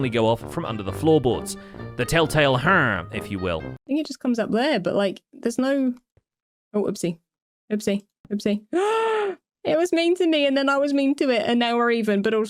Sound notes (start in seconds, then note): 9.0 gasps